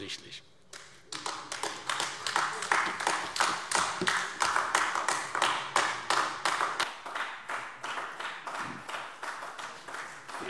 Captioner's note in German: Anhaltender Beifall AfD